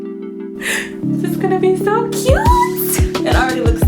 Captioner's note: gasp